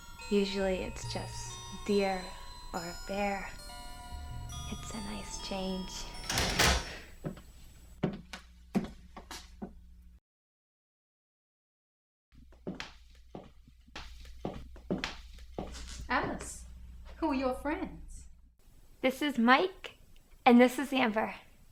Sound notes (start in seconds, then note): 6.0 door closes; 7.9 heels clacking